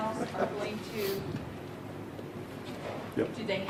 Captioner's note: laughing